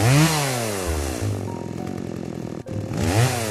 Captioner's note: sound of Chainsaw